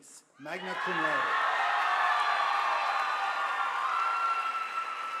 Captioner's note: audience applauding